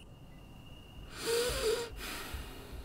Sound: sigh

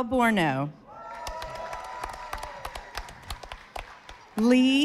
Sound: audience applauding

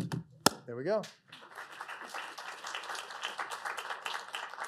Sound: applause

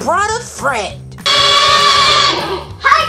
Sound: tractor squealing

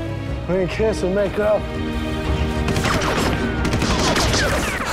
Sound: guns blasting

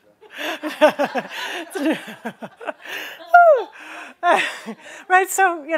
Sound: laughter

